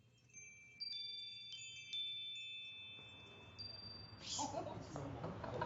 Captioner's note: wind chimes ringing; laughing